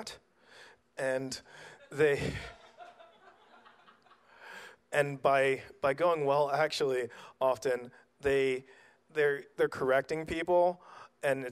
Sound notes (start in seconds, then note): 1.8 audience laughs